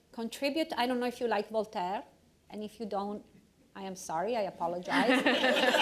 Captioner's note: laughter